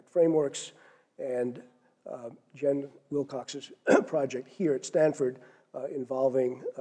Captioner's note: cough